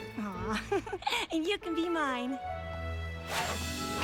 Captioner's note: chuckles